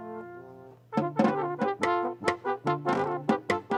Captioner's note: none